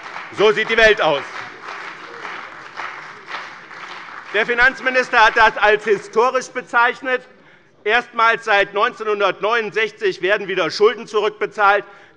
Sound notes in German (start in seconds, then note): 1.6 Beifall bei dem BÜNDNIS 90/DIE GRÜNEN und der CDU